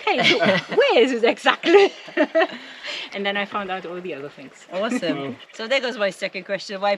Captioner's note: laughing